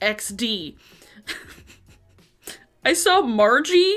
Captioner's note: laughs